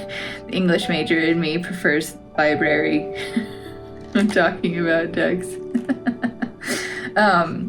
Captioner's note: laugh